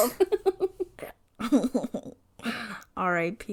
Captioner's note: laughs